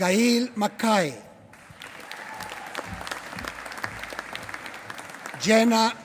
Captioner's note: applause